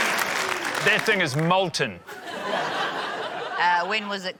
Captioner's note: laughter, applause; laughter